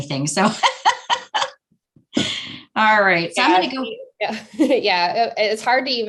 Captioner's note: laughing